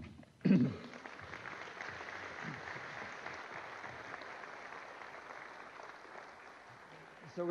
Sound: applause

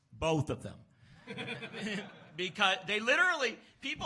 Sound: laughs

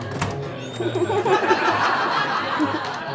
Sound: door opening sfx; audience laughter

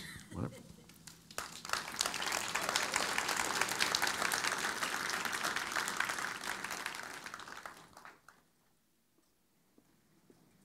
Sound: applause

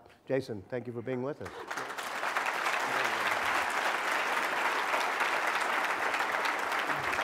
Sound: applause

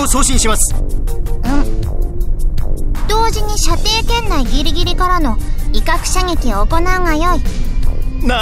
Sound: approving grunt

